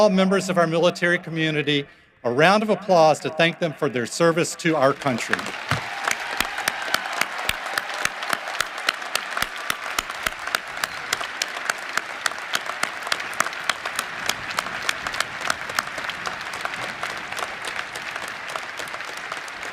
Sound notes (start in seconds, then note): 8.6 cheering and applause